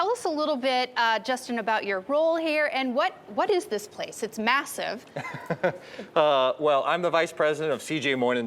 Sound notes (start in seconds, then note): 5.1 laughs